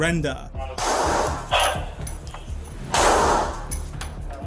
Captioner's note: gun firing